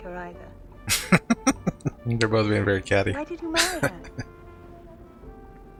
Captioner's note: laughing